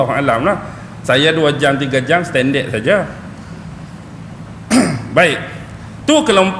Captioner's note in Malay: berdeham